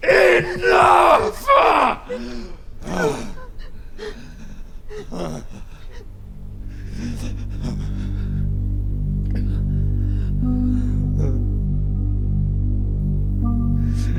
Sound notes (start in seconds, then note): 4.9 whimpers